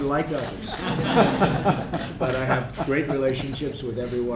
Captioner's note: laughter